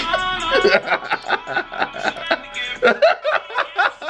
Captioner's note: laughing